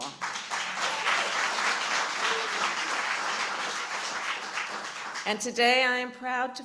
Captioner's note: applause